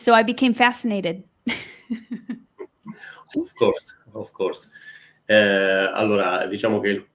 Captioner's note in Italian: Risate